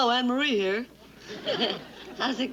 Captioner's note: giggles